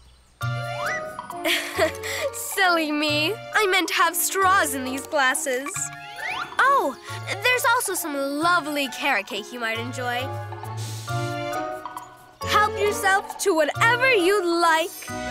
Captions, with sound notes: (chuckles) Silly me, I meant to have straws in these glasses. Oh, there's also some lovely carrot cake you might enjoy. Help yourself to whatever you like.